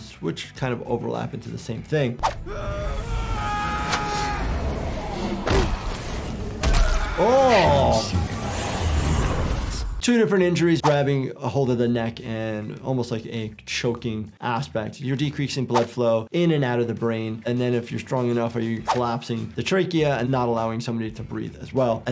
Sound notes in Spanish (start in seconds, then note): 2.4 luchadores gritando; 5.4 golpeteo corporal